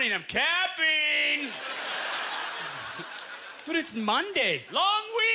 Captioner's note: audience laughter